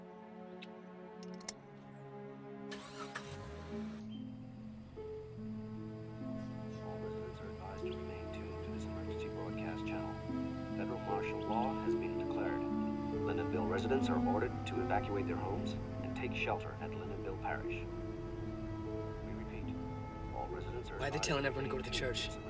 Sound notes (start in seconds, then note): 5.2 male voice over radio